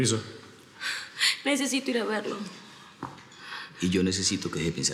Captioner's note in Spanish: Solloza